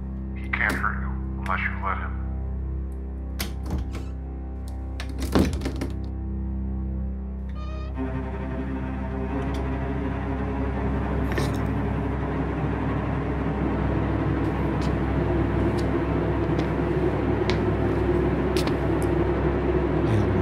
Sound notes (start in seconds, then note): 3.4 closet door thumping and creaking; 7.5 door squeaking; 11.2 crucifix scraping; 14.4 footsteps approaching